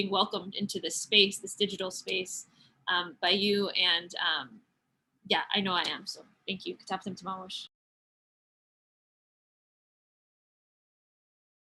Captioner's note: speaking Mohegan language